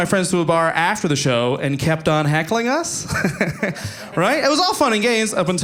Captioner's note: audience laughing